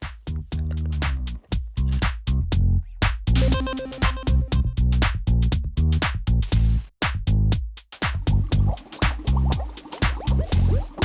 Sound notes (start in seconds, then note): 0.1 upbeat music; 3.4 beeping